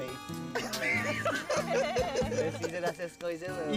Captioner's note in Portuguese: risos